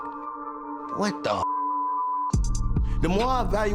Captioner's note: beeps